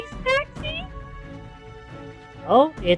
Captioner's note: sarcastically